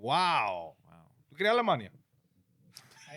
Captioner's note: speaking In Foreign Language